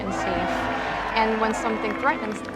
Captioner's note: group cheering